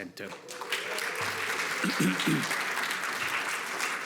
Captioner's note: audience applauds